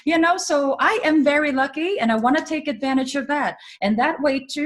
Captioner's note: none